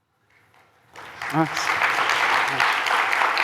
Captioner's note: applause